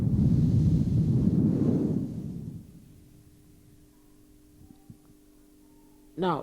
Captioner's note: shri mataji blows into the microphone